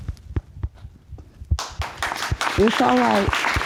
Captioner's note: audience applauding